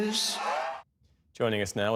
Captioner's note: cheering